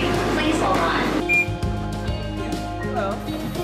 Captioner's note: beeps